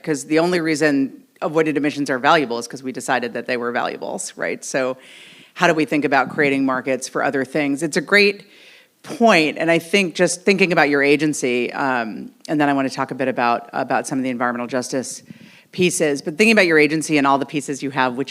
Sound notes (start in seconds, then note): none